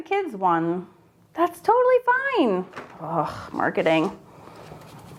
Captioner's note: groans